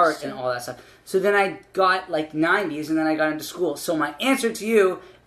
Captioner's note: none